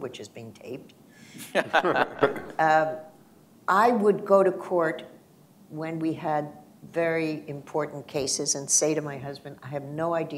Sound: laughter

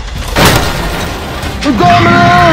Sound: metal crushing and Indominus roaring

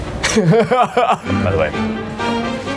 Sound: laughs

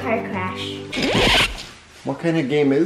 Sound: record scratching

